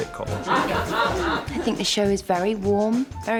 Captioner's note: laughter